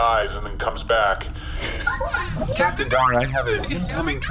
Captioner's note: communicator beeps